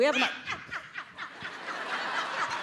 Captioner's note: audience cheering